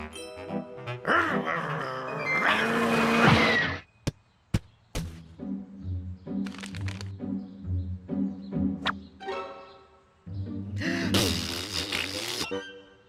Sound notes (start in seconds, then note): 1.2 growling; 10.8 blows raspberry